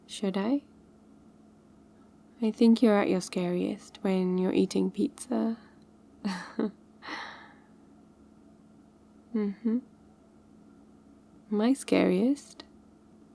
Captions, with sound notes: should I? I think you're at your scariest when you're eating pizza *laughs* mmhmm my scariest?